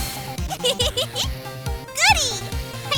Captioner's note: laughing